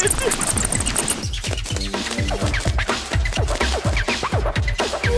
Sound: squeaking; scratching

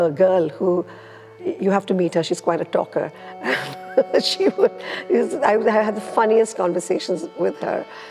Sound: laughs

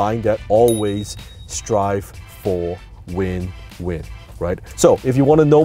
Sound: ding

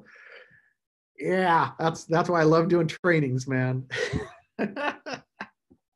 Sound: laughing

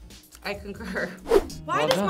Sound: laughing; clapping

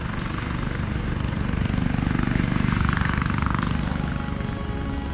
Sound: buzz of helicopter overhead

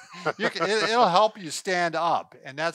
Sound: both laugh

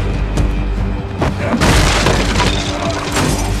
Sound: wall breaks; mirror breaks

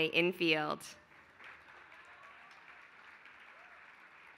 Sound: applause

